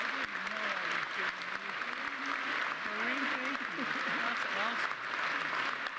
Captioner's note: applause